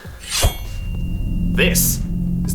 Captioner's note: shing!